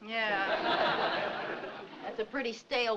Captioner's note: audience laughing